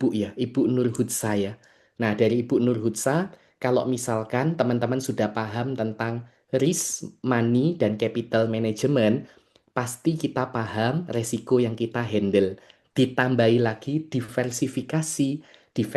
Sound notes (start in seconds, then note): none